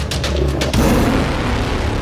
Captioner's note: tiger roars; suspenseful music